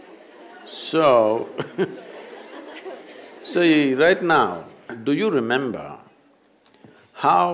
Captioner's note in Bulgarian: смее се